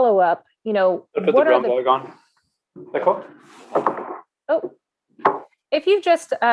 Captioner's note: interference audio